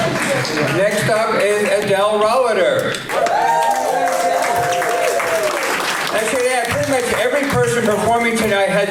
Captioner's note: applause